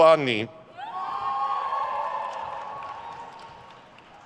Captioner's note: crowd cheers